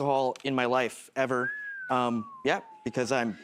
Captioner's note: whistles